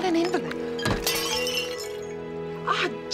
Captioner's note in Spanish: cuenco estrellándose